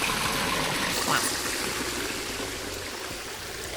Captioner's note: quack